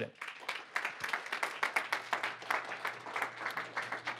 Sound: applause

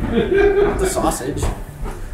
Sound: laugh

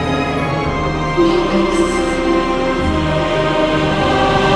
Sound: ghostly whispering

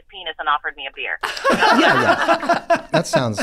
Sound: all laughing

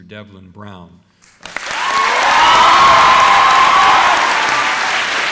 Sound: applause

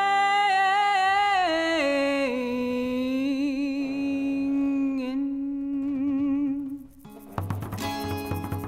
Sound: rope creaking

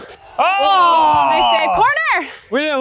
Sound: sounds of disappointment

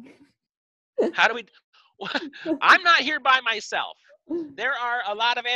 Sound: scoffs

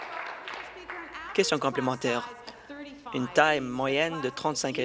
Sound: applause

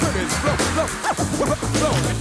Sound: vinyl record spinning

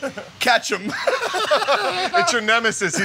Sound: laughing

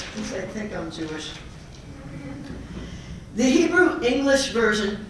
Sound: laugh

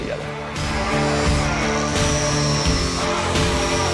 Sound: grinder Buzzing; upbeat Blues Rock Music Continues

